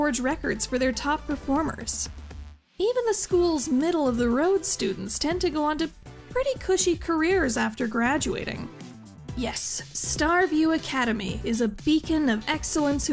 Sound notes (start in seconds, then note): none